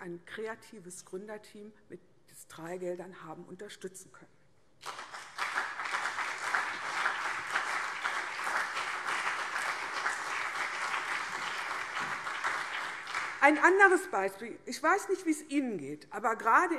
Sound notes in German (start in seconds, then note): 4.8 Beifall CDU und BÜNDNIS 90/DIE GRÜNEN